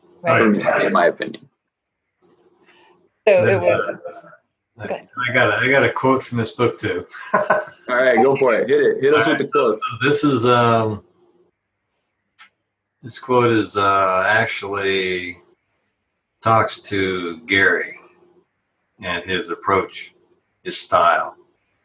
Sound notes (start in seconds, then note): 3.3 laughing; 7.7 laughs